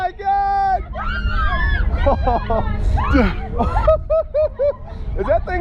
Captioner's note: riders screaming; rider laughing